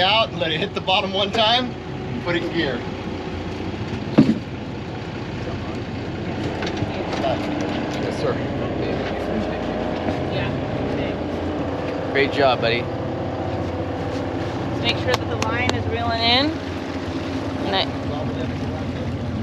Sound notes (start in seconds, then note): 10.1 boat engine idling; 14.4 boat engine idling